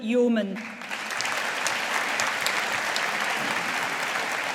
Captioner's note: audience applauding